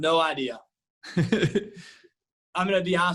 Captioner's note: laughs